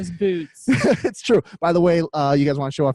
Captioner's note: laughs